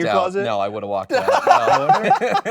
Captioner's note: hosts laugh